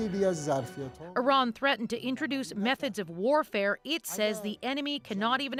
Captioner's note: speaking alternate language